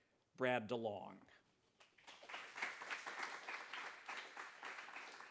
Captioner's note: applause